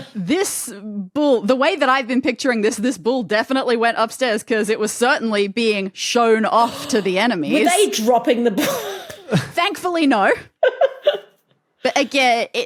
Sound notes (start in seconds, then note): 9.1 wheezes; 10.6 giggles